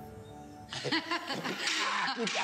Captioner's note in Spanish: Risas